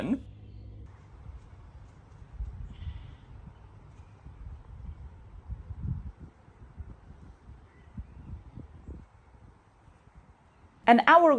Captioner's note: quiet nature sounds